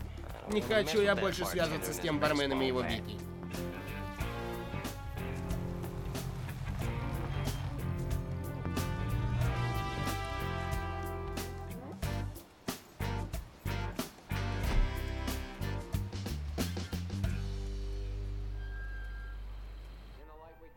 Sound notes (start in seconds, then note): 3.7 electricity crackling; 6.1 vehicle approaches; 7.8 brakes squeal; 14.6 car door closes; 17.2 brakes squeal